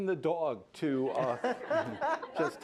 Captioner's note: laughter